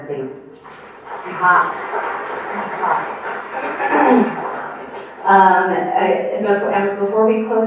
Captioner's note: applause